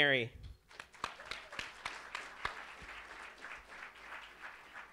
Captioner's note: audience applauds